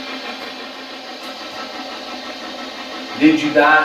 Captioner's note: white noise buzzes